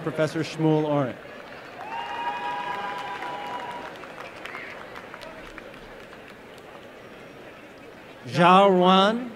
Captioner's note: applause and cheering